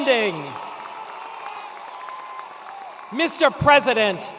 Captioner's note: attendees cheering and applauding